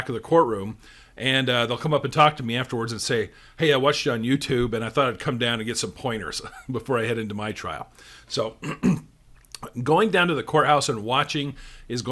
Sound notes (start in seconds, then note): 6.4 chuckles